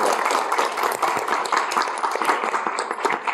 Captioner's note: applause